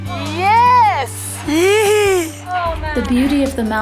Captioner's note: murmuring